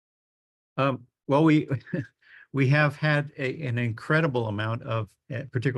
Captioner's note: laughs